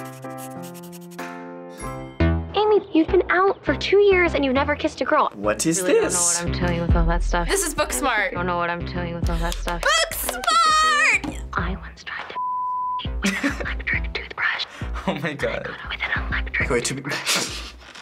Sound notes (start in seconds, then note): 9.3 gasps and claps; 17.0 chuckles